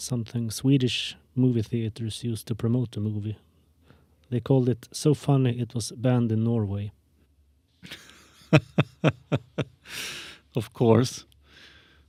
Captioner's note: laugh